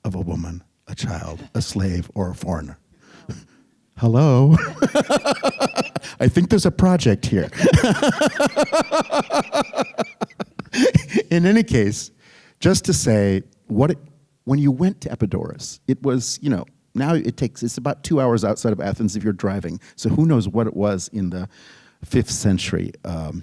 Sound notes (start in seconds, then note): 4.6 laughing; 7.4 group laughing